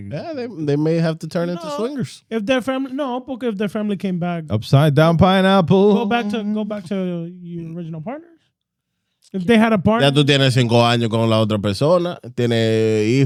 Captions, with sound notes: They may have to turn into swimmers. If their family, no, okay, if their family came back. Upside down pineapple. Go back to your original partner. If they had a partner. (Speaking In Foreign Language)